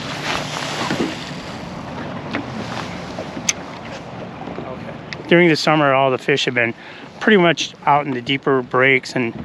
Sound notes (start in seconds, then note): 0.1 rod whipping; 3.0 reel spinning